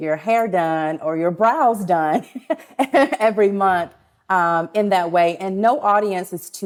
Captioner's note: laughs